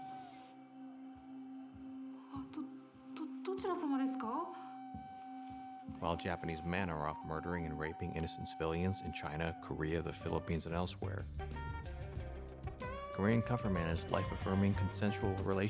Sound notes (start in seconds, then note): 5.2 narrating